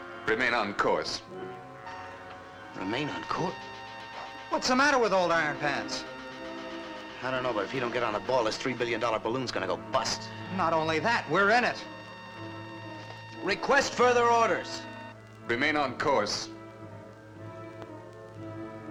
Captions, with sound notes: Alpha concentration is building to critical points, suspect Sigma Barrier. - Yes. Sybil, I... - [Loudspeaker] Captain, Sigma Barrier dead ahead. We're bearing down rapidly. Awaiting orders. Repeat, awaiting orders. - I...